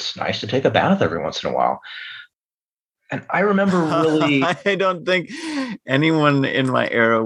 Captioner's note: laughter